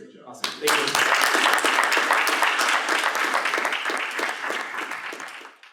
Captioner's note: applause